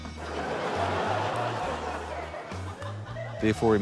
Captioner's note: laughter